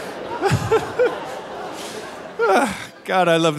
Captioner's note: laughing